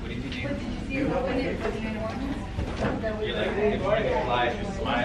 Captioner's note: students murmuring